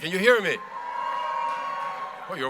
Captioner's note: cheers from the audience